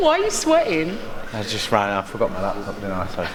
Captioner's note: laughing